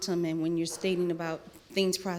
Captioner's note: none